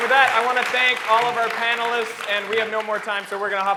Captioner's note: applause